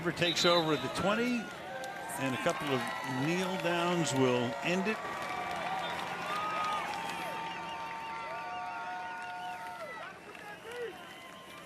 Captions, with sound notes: as Denver takes over at the 20, and a couple of kneel-downs will end it. [cheering]